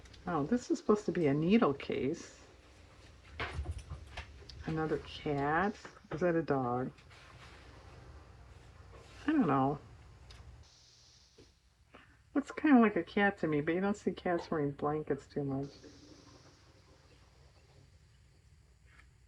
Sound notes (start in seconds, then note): none